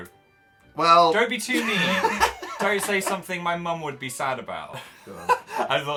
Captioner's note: laughs; laughs